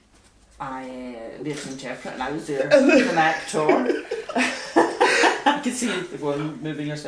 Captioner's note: laugh